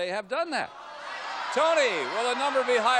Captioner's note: audience yelling